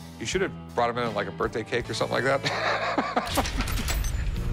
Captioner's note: laughs